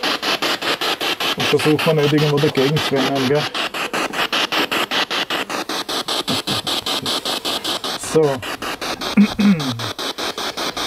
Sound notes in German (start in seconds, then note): 5.2 Noise of the spiritbox in the background